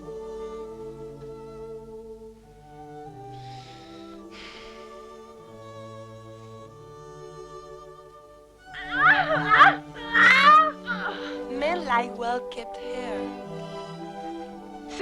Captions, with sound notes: (Hundra sighs) - (Shouting) Ow! - Men like well kept hair.